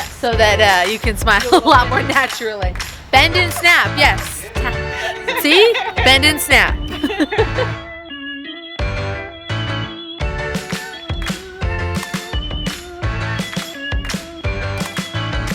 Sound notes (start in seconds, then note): 7.1 laughing; 8.1 upbeat music